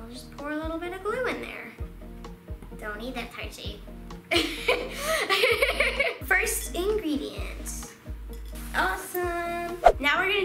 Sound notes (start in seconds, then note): 4.4 laughing